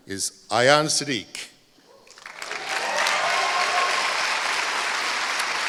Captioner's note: applause